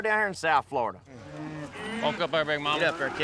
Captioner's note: cattle moo